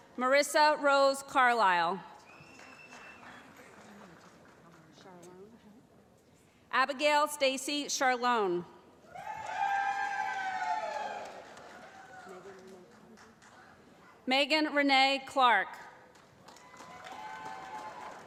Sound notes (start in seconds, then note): 2.2 applause; 9.0 cheering